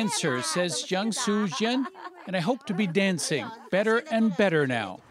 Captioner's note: speaking chinese